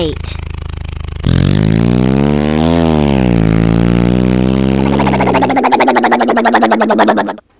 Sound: motor sound

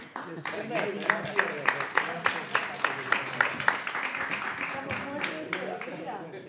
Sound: audience applauds; panelists chattering

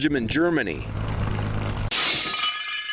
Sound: propellers whirring; glass shattering

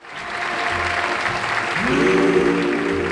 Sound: audience applauding

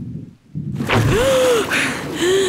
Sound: gasping

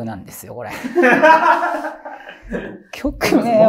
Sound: laughing

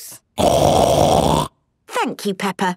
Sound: loud snort

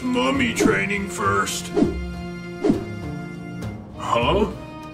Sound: object whooshing

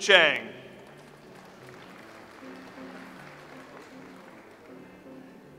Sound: audience applauds

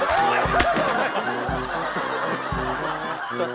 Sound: ripping

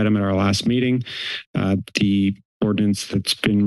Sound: inhales

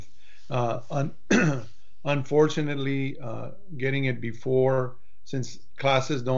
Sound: clears throat

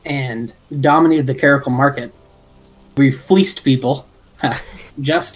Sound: laugh

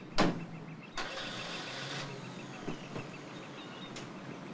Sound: car engine starts

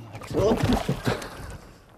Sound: fall and splash!

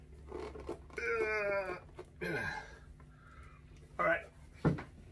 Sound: he groans

